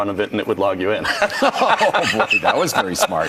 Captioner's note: laughing